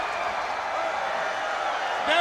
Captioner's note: crowd cheering